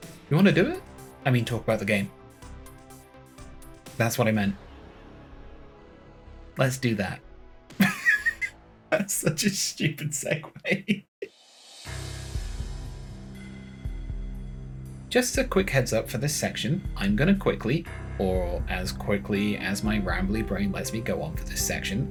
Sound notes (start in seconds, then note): 10.2 laughing